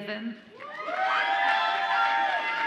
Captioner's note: audience applauds and cheers